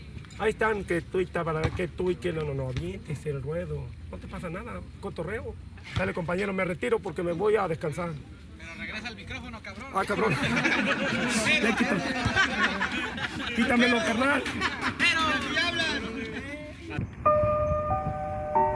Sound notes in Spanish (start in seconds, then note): 11.2 risas; 14.7 risas